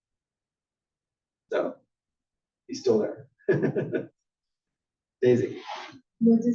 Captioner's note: laugh